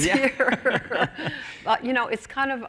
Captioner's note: laughter